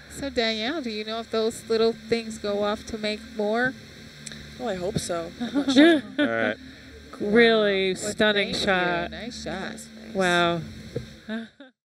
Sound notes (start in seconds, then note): 5.4 laughs; 10.7 giggles